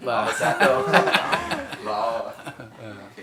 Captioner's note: laughs